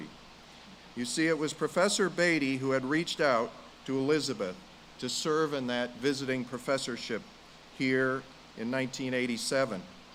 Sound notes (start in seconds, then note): none